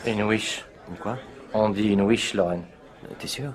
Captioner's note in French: none